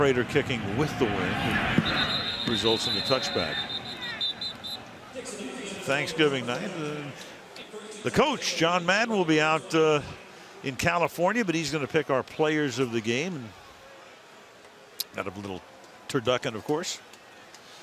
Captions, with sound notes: This time Prater kicking with the wind. [whistle blows] Results in a touchback. [pa announcement] Thanksgiving night, the Coach, John Madden, will be out in California but he's going to pick our players of the game. Got a little turducken of course.